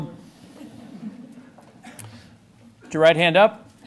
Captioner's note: laughter